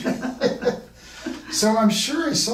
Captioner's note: laughing